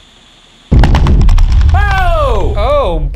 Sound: loud rumbling

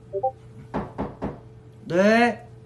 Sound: knocking

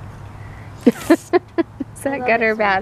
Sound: laughs

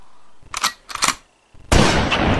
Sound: shotgun cocking

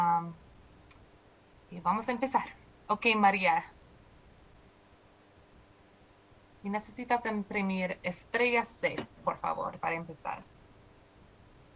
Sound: speaking spanish

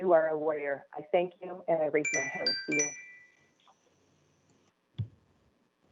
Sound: chime

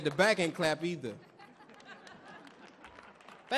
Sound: audience laughs; audience cheering; audience clapping

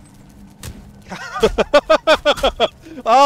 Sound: laughs

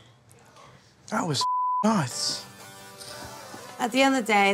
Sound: beep

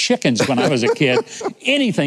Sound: laughing

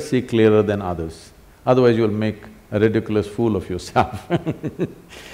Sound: laughs

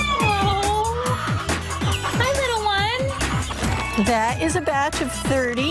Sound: chirping

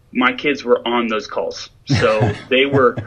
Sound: laughs

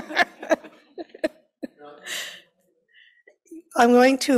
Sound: laughing

